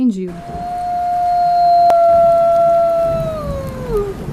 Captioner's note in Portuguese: uivo de lobo